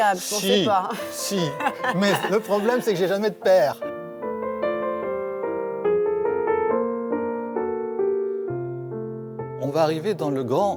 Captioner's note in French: rires